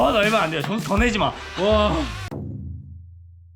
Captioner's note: laughs